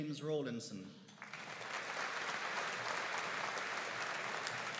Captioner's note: audience applauding